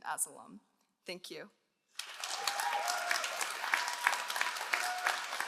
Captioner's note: all applauding